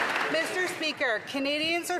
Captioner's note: some Applause